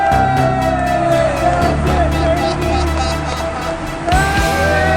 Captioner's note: whooping